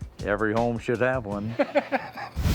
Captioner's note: Rick laughs